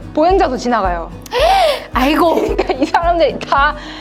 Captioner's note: gasp